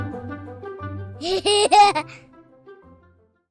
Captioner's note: laughter